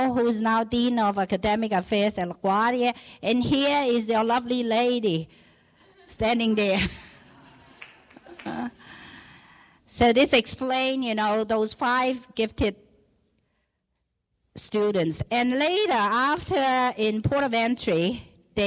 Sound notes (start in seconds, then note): 6.8 laughing; 7.6 clapping